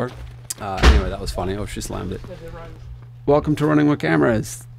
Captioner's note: slams